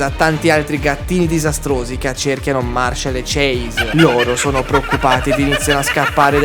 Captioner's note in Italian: risate